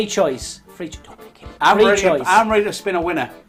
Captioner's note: whispering